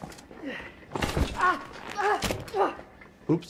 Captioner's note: medic groaning